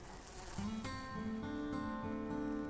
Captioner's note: fly buzzing